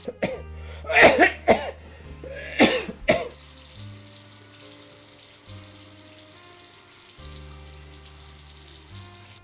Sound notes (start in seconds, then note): 0.3 coughing; 2.6 water running; 6.2 gentle music